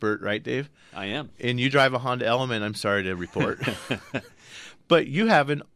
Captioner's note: laughs